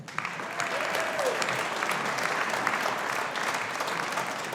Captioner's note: audience applauding